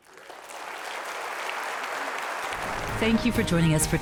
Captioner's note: audience clapping